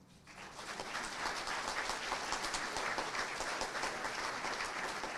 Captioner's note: crowd applauding